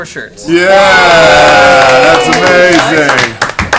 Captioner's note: cheering